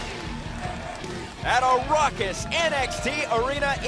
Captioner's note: crowd cheering